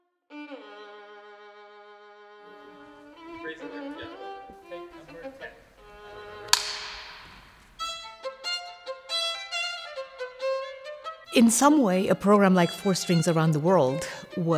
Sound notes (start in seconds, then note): 6.5 smacking